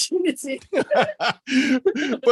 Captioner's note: both laugh